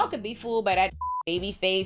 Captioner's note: beep